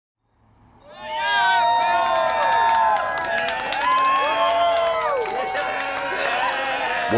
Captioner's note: crowd cheering